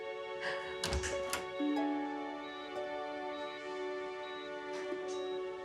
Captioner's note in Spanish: llorosa; ruido al entrar